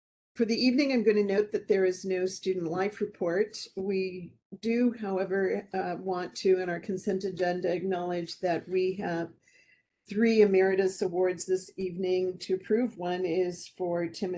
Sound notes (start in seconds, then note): none